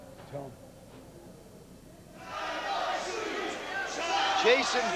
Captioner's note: crowd cheering